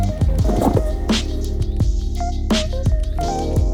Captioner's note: machine beep; mat unrolling